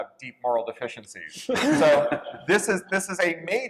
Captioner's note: laughter